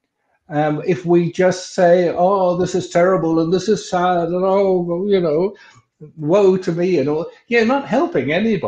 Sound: wailing

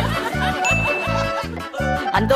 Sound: background chatter

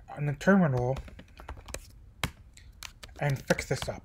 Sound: typing

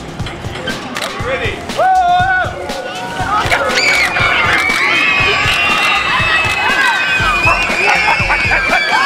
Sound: children scream and dinosaur roars

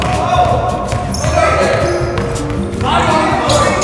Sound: yelling

